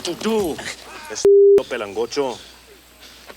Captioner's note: speaks Spanish